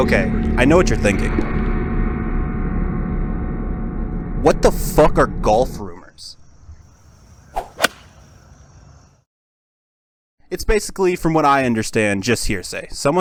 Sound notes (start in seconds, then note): 7.0 golf Sounds